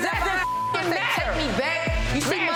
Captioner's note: overlapping chattering; beep